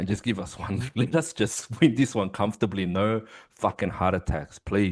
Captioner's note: laughs